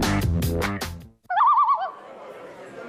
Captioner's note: Loon call; mixed chatter